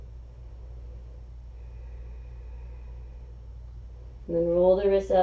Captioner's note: exhaling